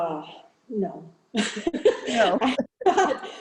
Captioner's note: laughing